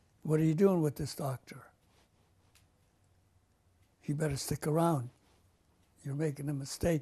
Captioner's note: pauses for 3 seconds